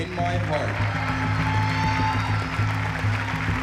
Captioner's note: cheering and applause